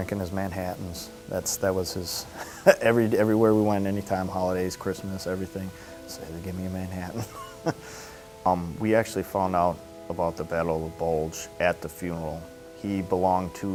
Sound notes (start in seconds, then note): 7.1 chuckles